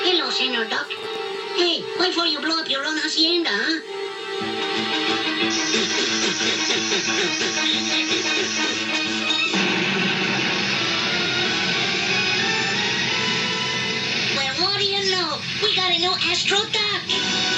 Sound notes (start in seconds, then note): 5.8 blows; 9.6 boom